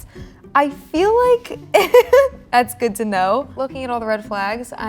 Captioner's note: laughing